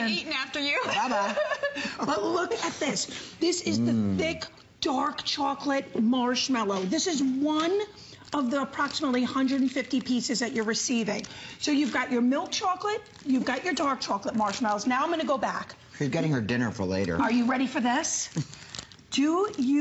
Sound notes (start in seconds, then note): 0.8 laughter